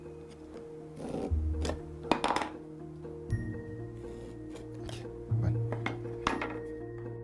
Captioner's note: tool sounds